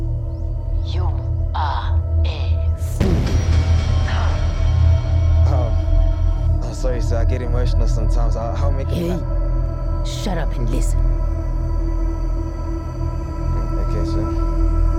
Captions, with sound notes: YOU ARE A FOOL! [CAUGHS] Uhm, sorry Sir, I get emotional sometimes, I'll make a plan... Hey! Shut up and listen. Ugh, ok Sir.